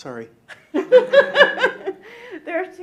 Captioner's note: laughs